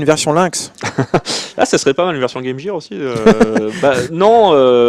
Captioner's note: laughs